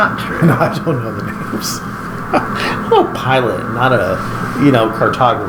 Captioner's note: laughing